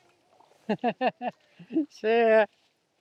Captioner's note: laughing